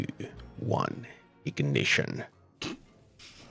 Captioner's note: chuckles